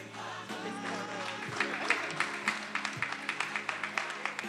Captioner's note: attendees applauding